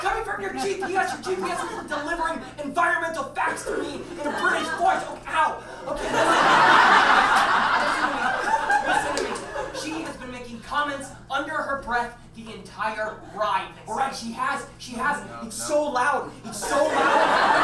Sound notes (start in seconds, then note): 5.4 audience laughs